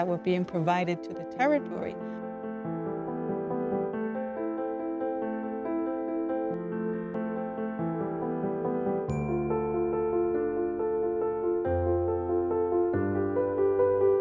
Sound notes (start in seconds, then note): none